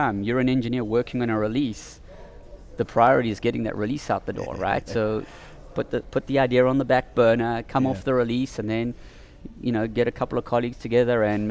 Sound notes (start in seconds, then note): 4.3 laughs